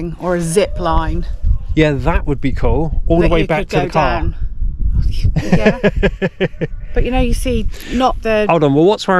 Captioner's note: laughter